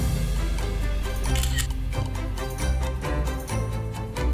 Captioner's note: shutter clicks